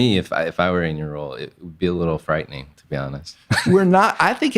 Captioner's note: laughs